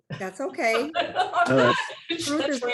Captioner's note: laughing